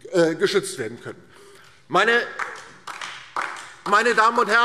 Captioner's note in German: Beifall DIE LINKE